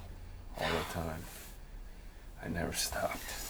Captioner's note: exhales sharply